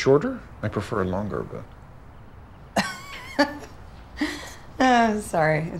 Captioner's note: chuckling